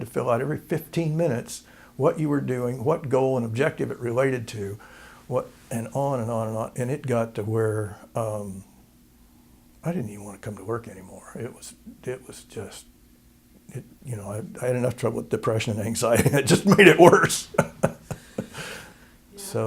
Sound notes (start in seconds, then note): 15.7 laughter